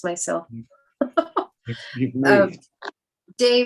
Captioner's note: chuckles